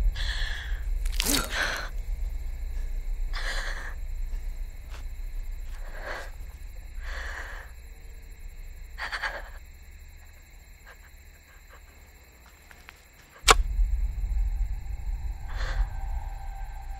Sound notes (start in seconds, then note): 13.4 digging